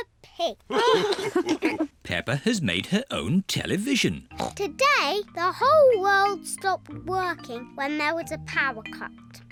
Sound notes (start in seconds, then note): 0.7 all laugh